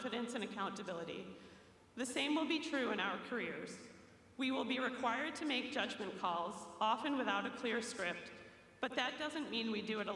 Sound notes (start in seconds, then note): none